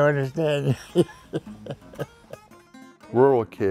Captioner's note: laughs